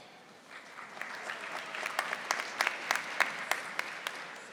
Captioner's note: audience applauding